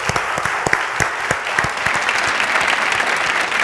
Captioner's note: applause